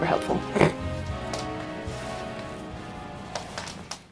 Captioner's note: snorts